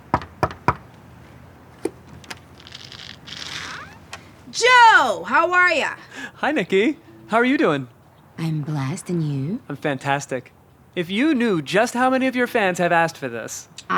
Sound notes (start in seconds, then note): 0.1 hand knocking on door; 2.4 door squeaking open